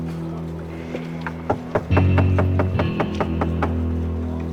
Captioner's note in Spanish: Ruido al tocar